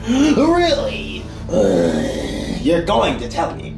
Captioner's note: zombie sound